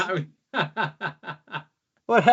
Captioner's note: laughing